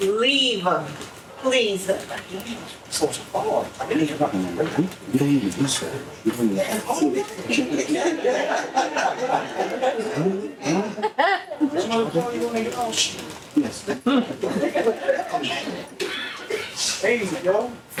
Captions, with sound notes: Leave her, please. (audience chattering) (audience laughing) Hey, yo.